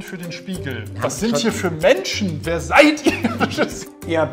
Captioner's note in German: lacht